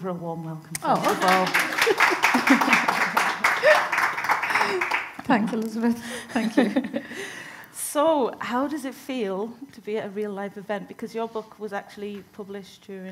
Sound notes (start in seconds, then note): 0.8 audience applauding